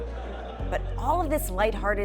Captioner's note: students laughing